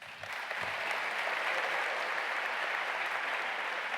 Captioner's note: audience applauding